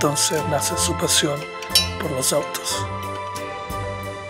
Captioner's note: tool clatters